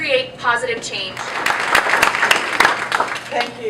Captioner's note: applause